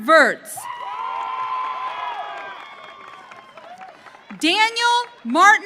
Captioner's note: audience cheering